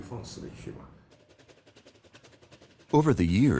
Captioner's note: train engine revving